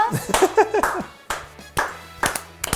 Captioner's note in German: Applaus